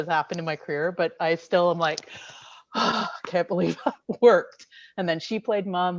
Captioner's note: sighs